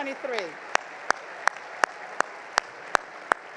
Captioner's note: crowd applauds